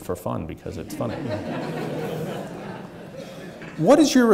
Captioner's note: audience laughing